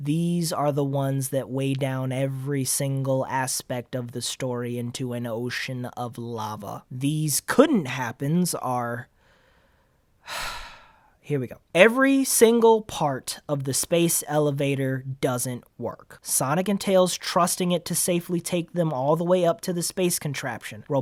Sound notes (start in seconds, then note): 9.1 exhale; 10.2 inhale